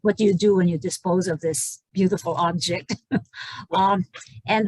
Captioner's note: laughs